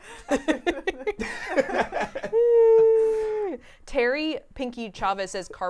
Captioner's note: laughing